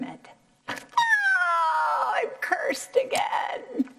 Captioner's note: screaming